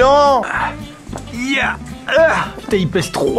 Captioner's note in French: gémissements dus à l'effort physique